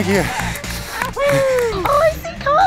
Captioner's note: cheering